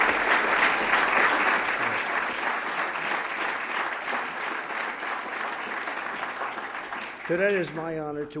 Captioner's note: applause